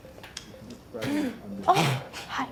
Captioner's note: gasps